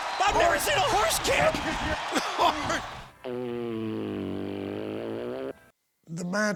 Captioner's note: laugh